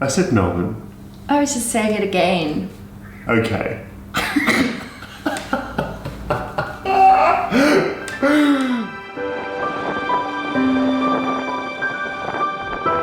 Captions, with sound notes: I said Melbourne. - I was just saying it again. - Okay. (laughs) (uplifting piano music)